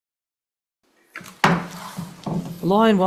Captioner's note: gavel pounding